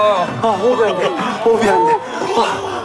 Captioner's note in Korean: 호흡 곤란